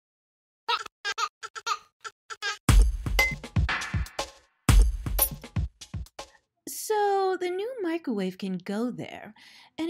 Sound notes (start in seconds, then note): 0.7 child giggling; 2.7 techno music